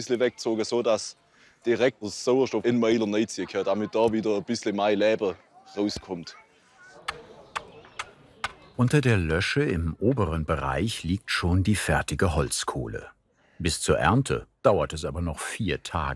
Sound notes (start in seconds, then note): 7.2 bubble of voices in the background